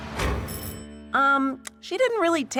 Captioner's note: doorbell rings